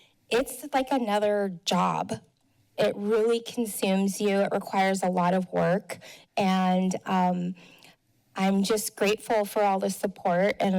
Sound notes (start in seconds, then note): none